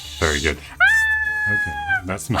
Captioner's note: screaming